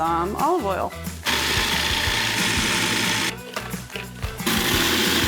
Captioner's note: food processor whirring